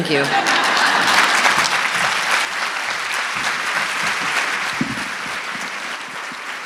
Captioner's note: audience clapping; audience laughing